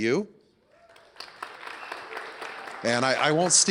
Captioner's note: applause